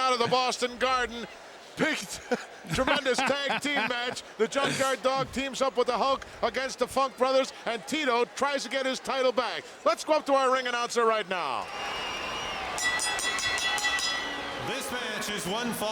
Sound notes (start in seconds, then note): 12.6 bell ringing